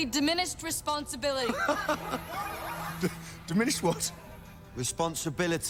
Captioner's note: laughs